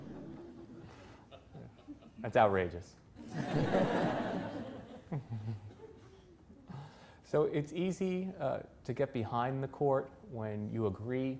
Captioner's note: laughter